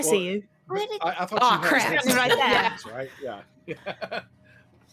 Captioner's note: laughs